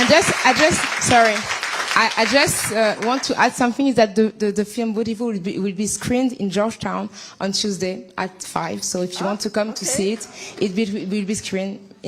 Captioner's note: applause